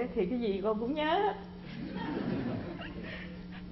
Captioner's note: laugh